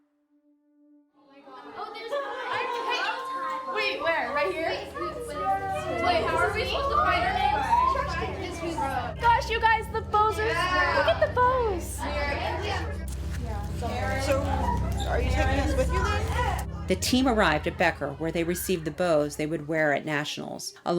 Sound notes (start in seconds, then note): 2.8 chatter